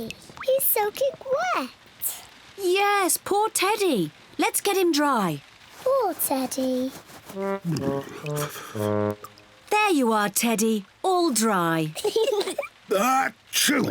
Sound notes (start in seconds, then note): 5.7 shivering; 7.7 kids giggle; 10.4 sneezes